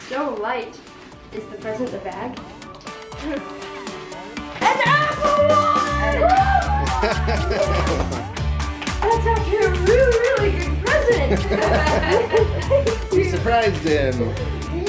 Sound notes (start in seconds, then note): 10.8 everyone laughing happily